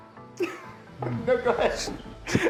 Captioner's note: laughs